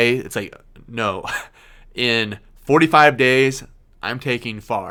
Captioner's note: laughs